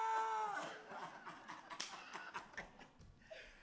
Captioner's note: men Laugh